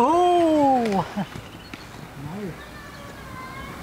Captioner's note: giggles